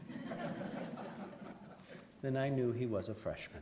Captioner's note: laughs